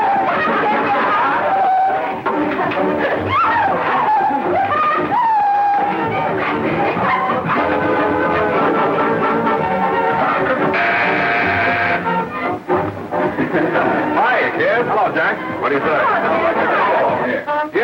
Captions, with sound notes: (laughing) (buzzing) - Hi, kids. - Hello, Jack. What do you say?